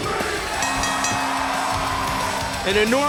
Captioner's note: bell ringing